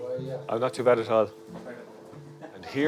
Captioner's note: voiceover